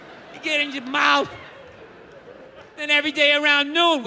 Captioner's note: crowd laughs